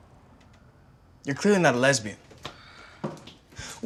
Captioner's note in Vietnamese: thở dài